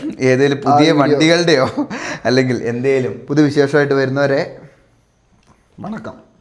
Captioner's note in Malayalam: പൊട്ടിച്ചിരി